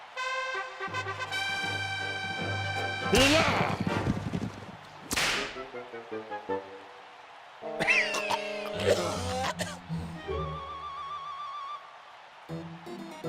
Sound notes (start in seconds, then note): 0.0 trumpets heralding; 3.3 whipping noise; 7.7 coughing